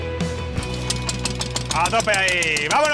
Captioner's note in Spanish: Motor arranca